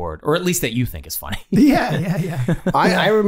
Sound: Glenn laughing

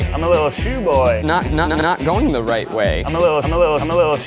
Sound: stutter

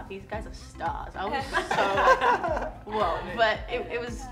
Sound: laughs

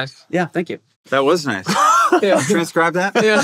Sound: laughs

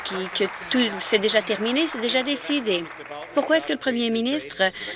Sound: applause

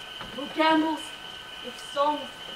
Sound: none

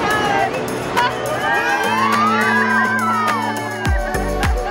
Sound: family exclaims

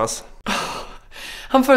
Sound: sighs

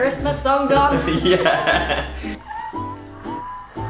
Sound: laughs

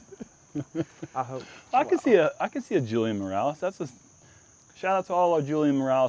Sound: laughs

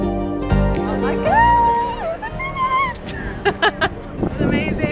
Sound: laughs

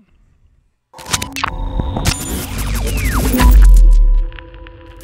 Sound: electronic beeping

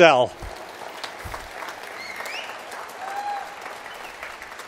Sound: applause

